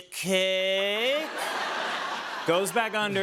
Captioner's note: laughter